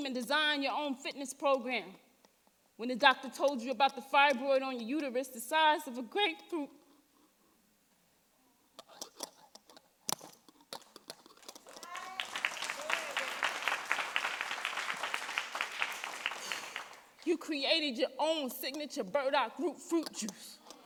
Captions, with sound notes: and designed your own fitness program. When the doctor told you about the fibroid on your uterus the size of a grapefruit, (audience applauding) you created your own signature, burdock root fruit juice.